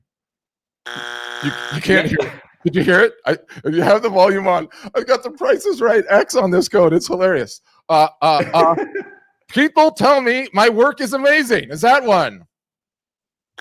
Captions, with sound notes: (buzzer beeps) You can hear it? you have the volume on, I've got the prices right x on this code, it's hilarious. (laughs) People tell me my work is amazing, is that one?